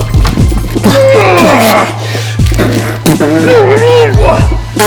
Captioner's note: groans